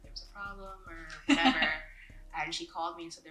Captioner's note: laughs